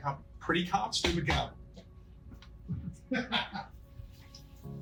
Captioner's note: laughs